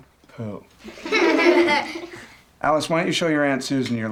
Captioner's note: laughing